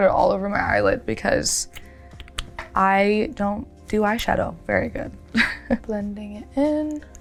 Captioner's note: chuckles